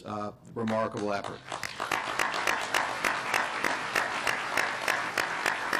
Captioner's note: clapping